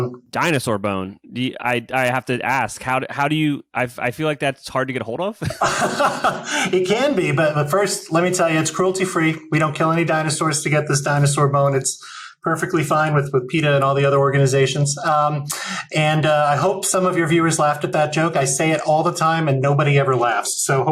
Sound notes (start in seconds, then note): 5.4 laughs